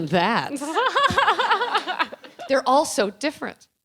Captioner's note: laughing